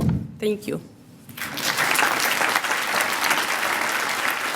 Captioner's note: applause